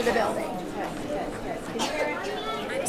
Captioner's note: audience chattering